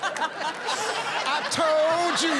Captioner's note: laughter